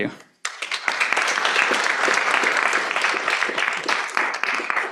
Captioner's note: applause